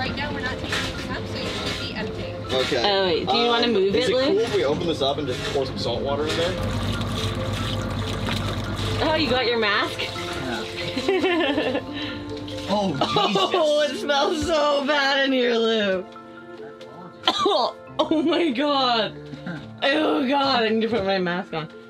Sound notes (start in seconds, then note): 6.2 water pouring; 10.9 laughs; 17.2 coughs